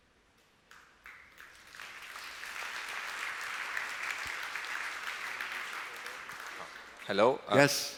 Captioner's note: applause